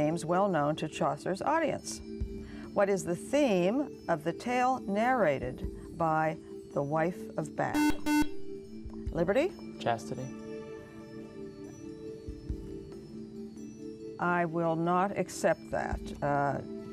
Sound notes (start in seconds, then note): 7.7 buzzer